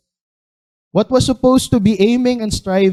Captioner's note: none